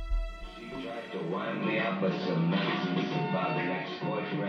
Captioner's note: English language spoken